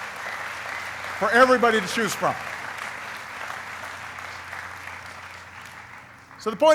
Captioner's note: applauding